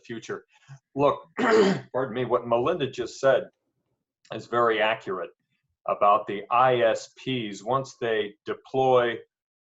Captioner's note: cough